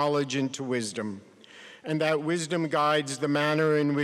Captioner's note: none